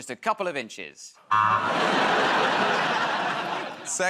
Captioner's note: laughter, buzzer